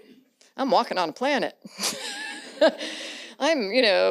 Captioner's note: laughs